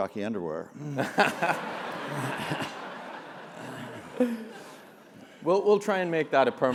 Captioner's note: laugh